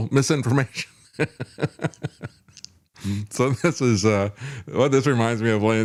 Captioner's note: laughs